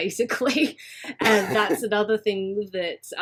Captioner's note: laughs